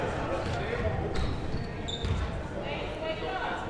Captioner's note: crowd murmuring